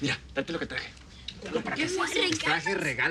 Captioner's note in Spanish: Hablan al unísono